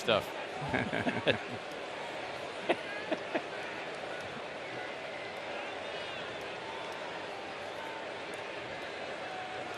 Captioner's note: laughter